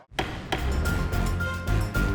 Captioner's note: intense music; gavel bangs